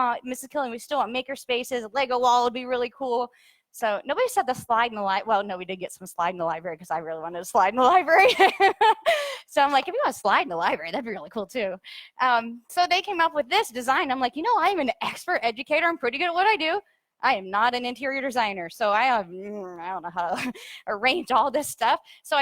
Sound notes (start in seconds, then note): 8.2 laughs